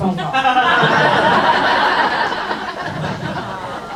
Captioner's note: crowd laughs